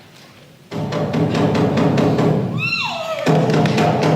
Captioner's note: there is a knock on the door